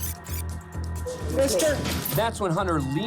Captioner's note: spits